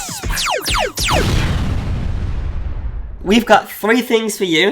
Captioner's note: laser sounds; explosion